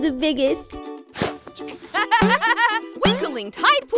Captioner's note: laughs